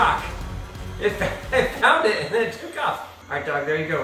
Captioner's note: laughs